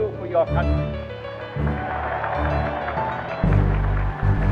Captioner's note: crowd cheering